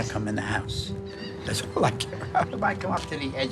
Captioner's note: chuckles